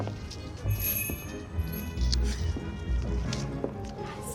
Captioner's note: door bell jingles